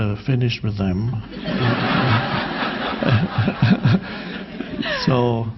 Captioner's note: audience laughing